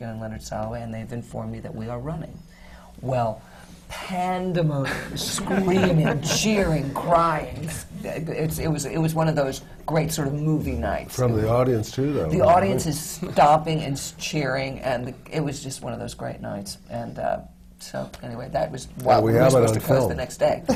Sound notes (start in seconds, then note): 4.9 laughter